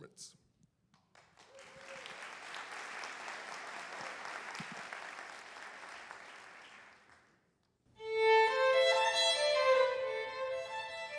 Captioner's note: applause